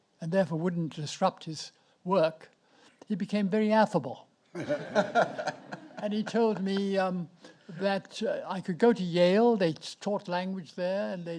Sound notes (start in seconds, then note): 4.6 audience laughs